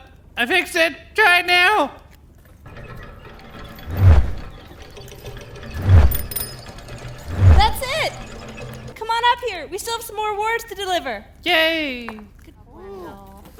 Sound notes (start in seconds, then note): 2.8 wings flapping; 6.5 bell ringing